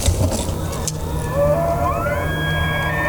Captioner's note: elk bugling